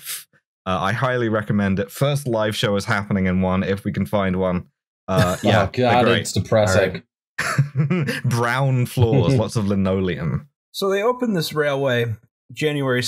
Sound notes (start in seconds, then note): 7.4 laughter